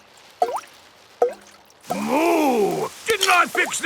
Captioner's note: water dripping